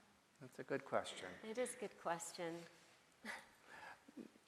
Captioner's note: chuckles